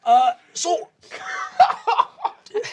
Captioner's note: laughing